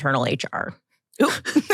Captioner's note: laughter